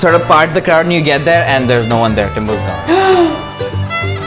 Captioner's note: gasp